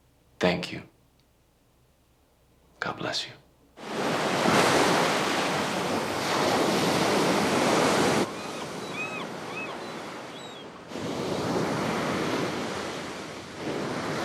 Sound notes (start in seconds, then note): 4.1 waves crashing; 8.3 birds cawing; 11.3 waves crashing